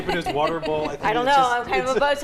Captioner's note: group laughing